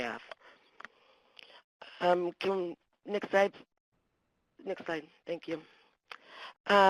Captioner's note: pause